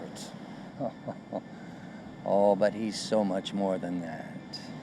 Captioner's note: chuckling